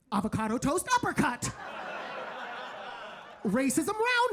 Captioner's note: audience laughing